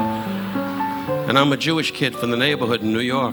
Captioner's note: audience laughing